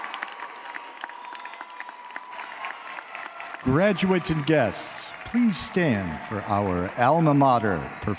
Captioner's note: cheering and applause